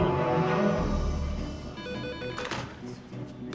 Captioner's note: phone rings